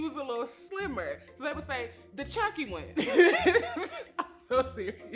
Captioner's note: laughs